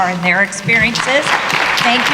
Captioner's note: applause